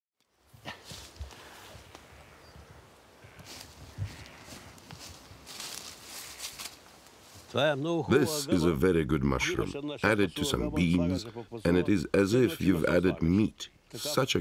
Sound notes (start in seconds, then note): 0.3 bushes rustling; 7.6 speaking in foreign language